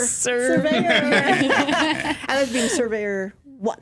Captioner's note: laughter